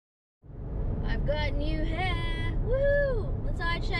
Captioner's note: sing song voice